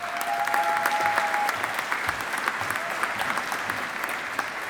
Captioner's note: audience applauding